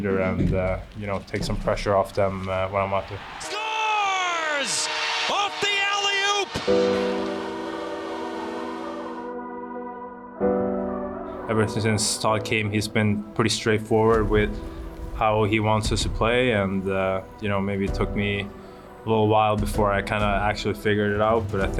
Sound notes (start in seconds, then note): 5.0 horn sounding; 7.1 poignant music